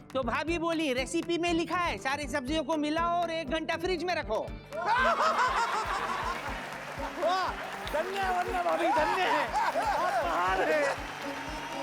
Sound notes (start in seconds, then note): 4.8 laughing